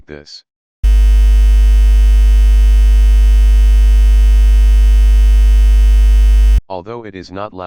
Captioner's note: humming Noise